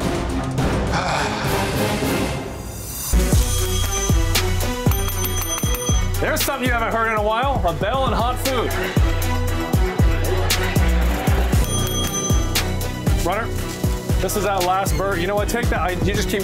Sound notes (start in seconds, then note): 3.3 bell ringing; 11.6 bell dinging